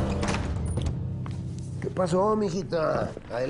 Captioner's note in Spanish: ruido al abrir puerta